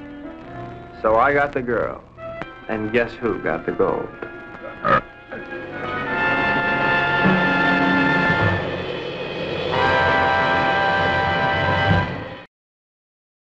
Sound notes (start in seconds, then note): 2.6 creature burping